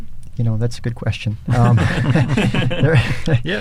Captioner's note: laughter